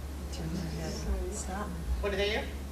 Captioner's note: people chattering